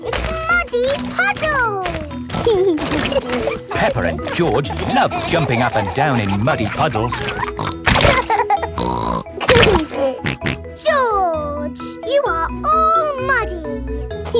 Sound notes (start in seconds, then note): 8.0 laughs and snorts